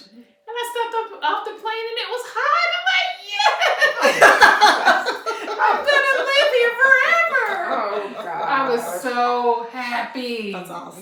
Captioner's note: laughter